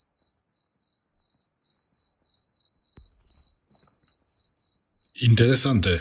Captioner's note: crickets chirping